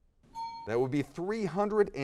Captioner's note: bell dings